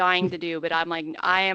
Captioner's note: laughing